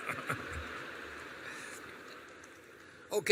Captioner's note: laughter